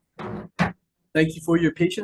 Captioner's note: gavel thudding